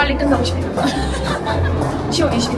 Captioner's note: laughter